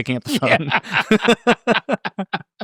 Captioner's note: both laughing; laughing